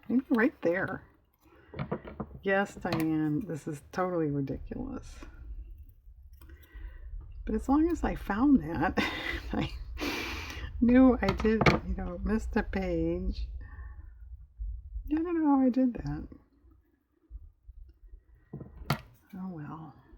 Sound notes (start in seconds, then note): 9.0 laughs